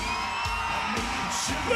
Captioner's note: audience cheering